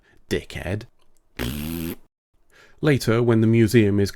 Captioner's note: raspberry blowing noise